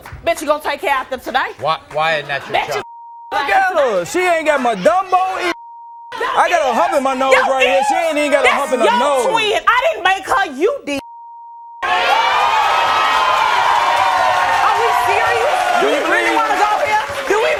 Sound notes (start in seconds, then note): 11.8 audience cheering